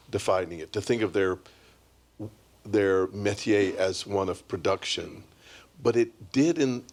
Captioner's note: french